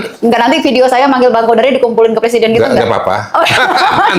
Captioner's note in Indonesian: tertawa